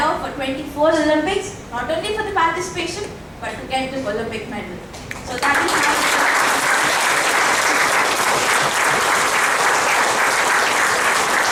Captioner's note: applause